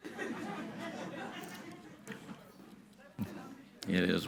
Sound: audience laughing

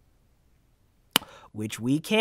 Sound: lips smack in thinly-veiled irritation

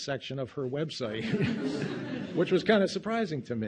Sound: audience laughing

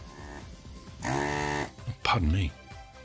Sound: desoldering tool noise

